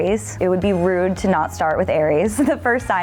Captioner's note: laughs